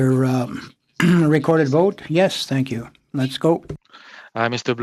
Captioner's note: speaking French